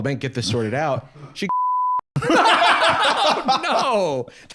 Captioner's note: laughing